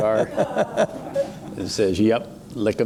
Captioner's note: chuckling